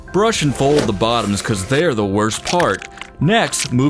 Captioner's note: none